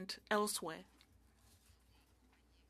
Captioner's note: speaking French